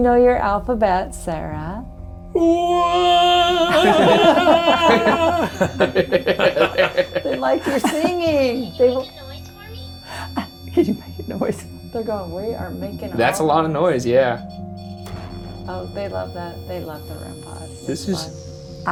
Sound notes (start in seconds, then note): 3.4 all laughs